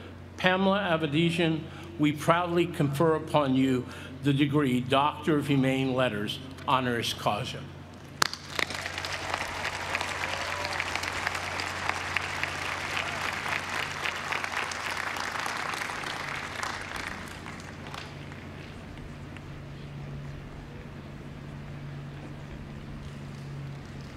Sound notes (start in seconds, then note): 8.2 applause